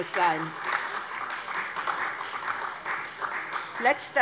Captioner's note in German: Beifall SPD und vereinzelt DIE LINKE